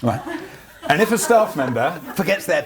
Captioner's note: laughs